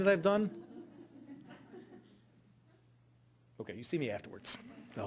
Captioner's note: audience laughing